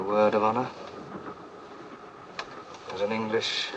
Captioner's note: train noise